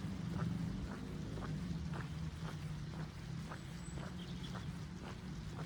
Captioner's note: footsteps and birdsong